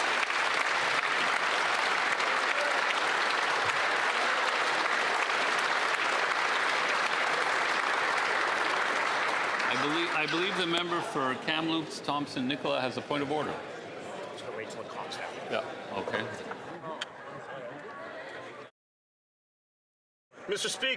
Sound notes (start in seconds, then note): 7.9 applause